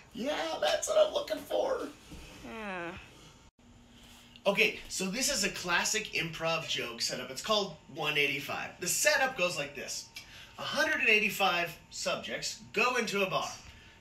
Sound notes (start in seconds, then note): 2.4 groan